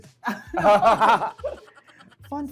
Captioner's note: both laugh